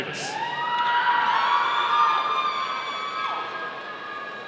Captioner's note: audience cheering